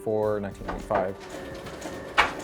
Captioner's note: copy machine whirrs